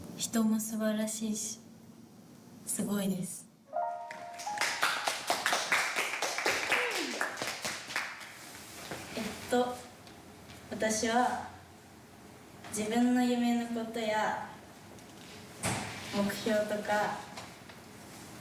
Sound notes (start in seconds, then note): 0.2 speaking in foreign language; 4.0 applause; 6.7 speaking in foreign language